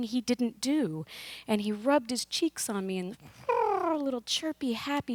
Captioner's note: chirp